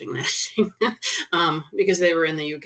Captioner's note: chuckling